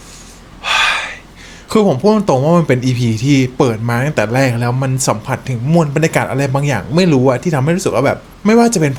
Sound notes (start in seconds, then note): 0.6 sigh